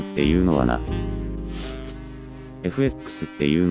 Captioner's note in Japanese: 息を吸う